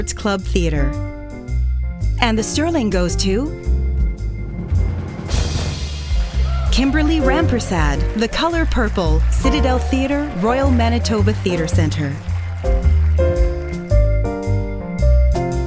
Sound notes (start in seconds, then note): 4.5 drumroll; 5.6 applause